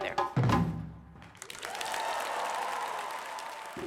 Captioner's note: applause